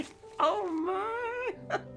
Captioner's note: laughing